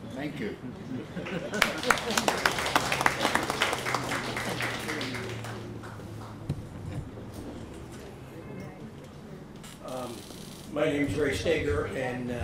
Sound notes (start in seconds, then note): 1.2 laughs; 1.2 applause